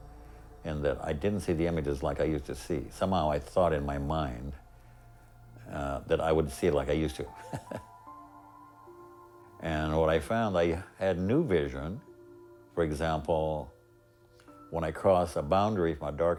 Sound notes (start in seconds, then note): 7.2 chuckles